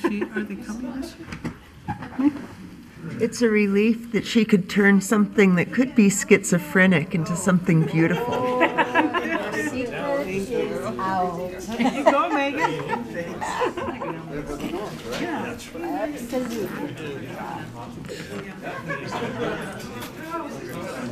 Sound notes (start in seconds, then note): 7.8 laughing and muttering